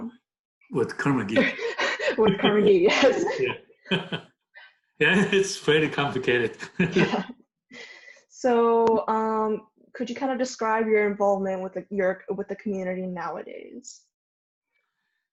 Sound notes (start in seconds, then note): 3.9 both laugh